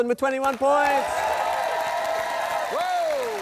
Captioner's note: cheering, applause